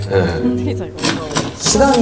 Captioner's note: pound, pound, pound